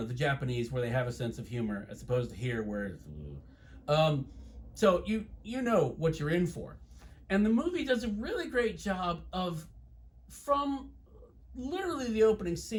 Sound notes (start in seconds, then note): 3.4 non-committal noise